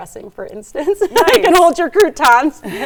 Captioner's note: laughs